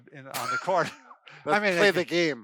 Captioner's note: laughing